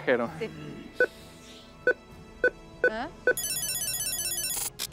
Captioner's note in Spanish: Sonidos electrónicos